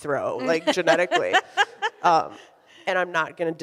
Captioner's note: laughs